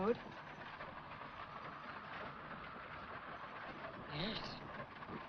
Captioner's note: carriage rattles & wind blows